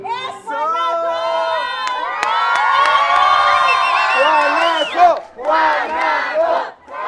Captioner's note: applause